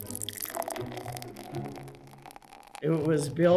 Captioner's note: sound of beer